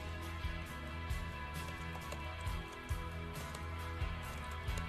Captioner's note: scatto di tastiera